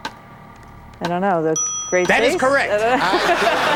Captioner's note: bell dings